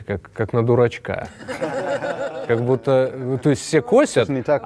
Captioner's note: general laughter